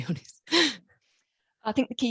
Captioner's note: chuckles